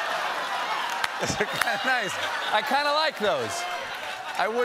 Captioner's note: cheers and applause